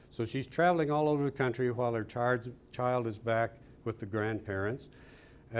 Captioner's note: none